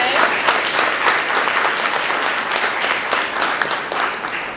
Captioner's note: applause